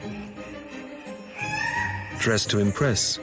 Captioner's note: squawking